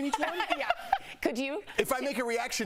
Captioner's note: laughter